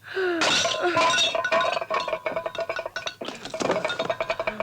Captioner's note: plate clatters